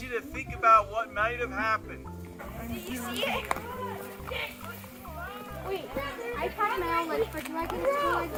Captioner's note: students chattering excitedly